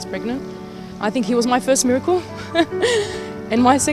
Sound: laughs

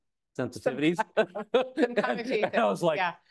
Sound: laughing

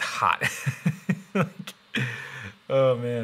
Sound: laughing

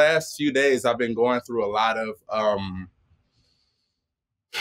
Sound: sighs

